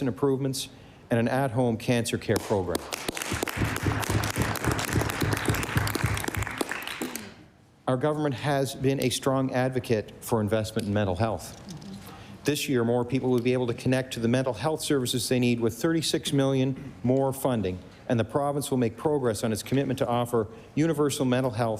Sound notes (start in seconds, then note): 6.2 applause